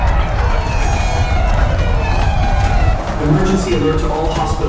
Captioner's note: people rushing in fear